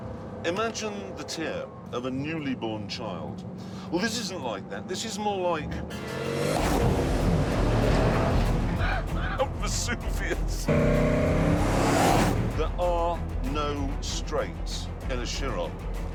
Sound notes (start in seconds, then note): 8.7 laughs; 10.2 engine roaring